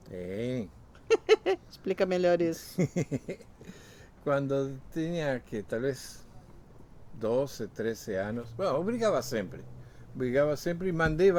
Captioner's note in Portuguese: risos